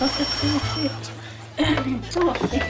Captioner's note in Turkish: Kapı zili sesi